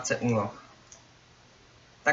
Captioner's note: right click with mouse